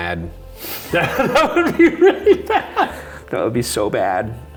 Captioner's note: laughs